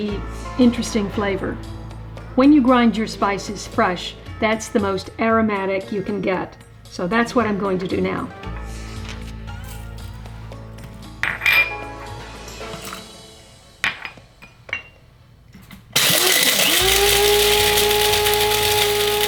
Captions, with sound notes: interesting flavor. When you grind your spices fresh, that's the most aromatic you can get, so that's what I'm going to do now. (high pitched grinding)